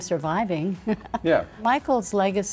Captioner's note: laughing